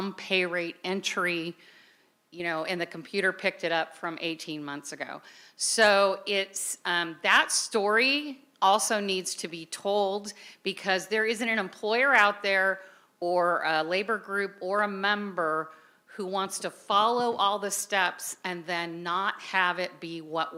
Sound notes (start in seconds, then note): none